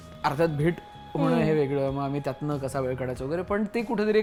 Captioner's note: none